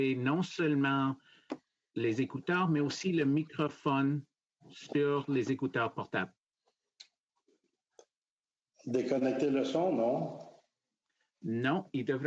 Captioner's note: speaking French